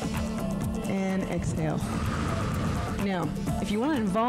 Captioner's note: breath hisses